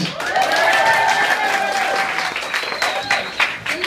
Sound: applause

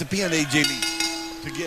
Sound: bell ringing

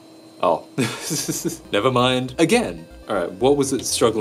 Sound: chuckles

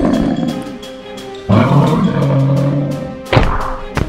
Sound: snow monster roars; Godakus roars

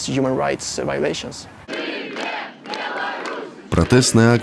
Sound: people chanting

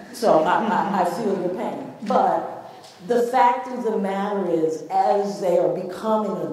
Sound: none

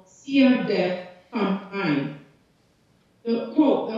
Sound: speaking foreign language

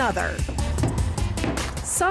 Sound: hammering

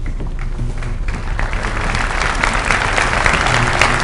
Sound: applause

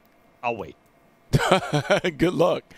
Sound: laughs

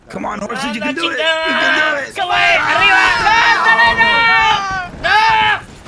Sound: loud yelling

